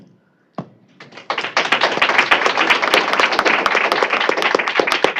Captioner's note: applause